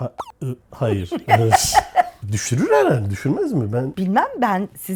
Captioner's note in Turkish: kahkaha